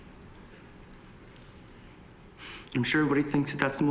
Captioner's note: voice breaking